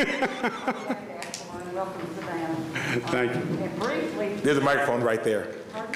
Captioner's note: laughter